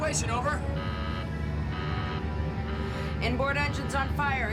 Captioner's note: buzzer sounds